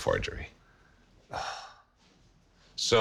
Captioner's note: sighs